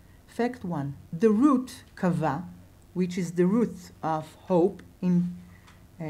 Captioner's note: in Hebrew